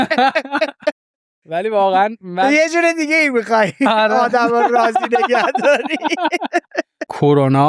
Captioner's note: laughs; laughs